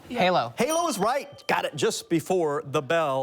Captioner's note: bell dings